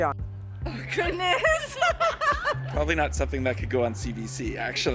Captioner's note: laughter